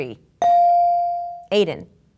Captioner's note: bell dinging